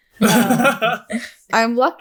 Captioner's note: laughing